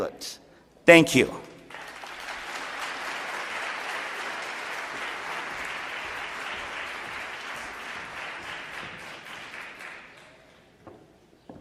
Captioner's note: applause